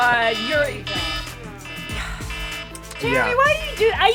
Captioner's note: alarm sounds